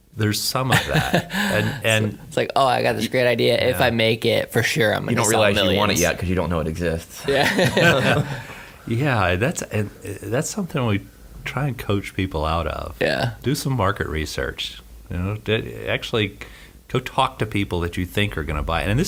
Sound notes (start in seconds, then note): 7.3 both laugh